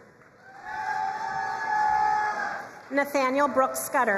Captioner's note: crowd cheering and applauding